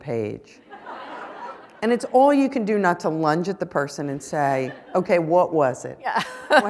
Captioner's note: laughter